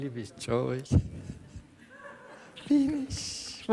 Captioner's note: laughter in the audience